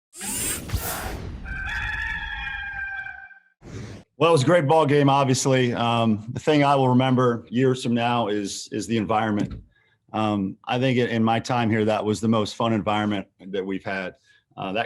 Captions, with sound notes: (rooster cawing) - Well, it was a great ball game. Obviously, the thing I will remember years from now is the environment. I think in my time here that was the most fun environment that we've had.